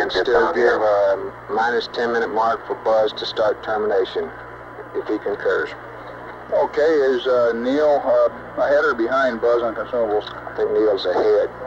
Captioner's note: mission Control Audio